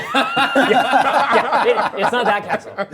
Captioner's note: group laughs